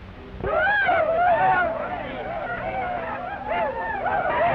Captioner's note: Cat Worshipers shout